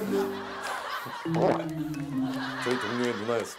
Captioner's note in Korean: 꿀꺽